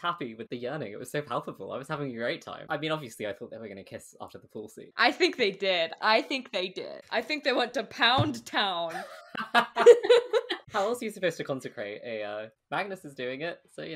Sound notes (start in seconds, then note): 8.9 laughs; 9.2 all laugh